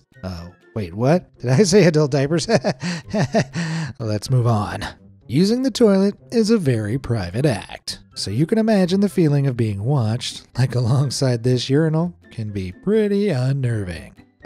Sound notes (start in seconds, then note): 2.5 nervous chuckle